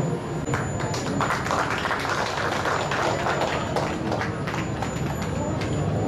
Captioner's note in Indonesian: tepuk tangan